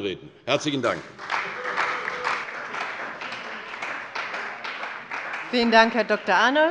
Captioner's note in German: Beifall bei der CDU und dem BÜNDNIS 90/DIE GRÜNEN